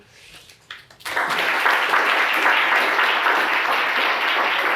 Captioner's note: audience applauds